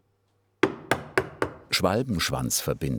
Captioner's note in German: Klopfen